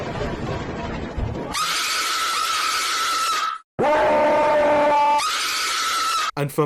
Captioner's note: more screams